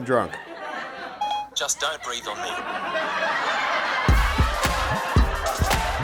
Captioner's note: beep